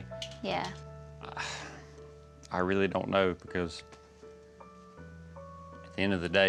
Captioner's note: sighs